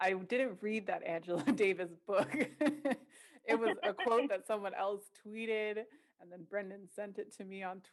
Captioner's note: laughter